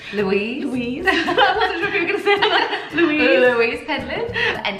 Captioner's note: laughter